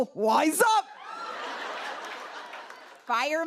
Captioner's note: laughter